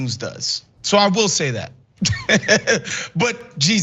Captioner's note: laugh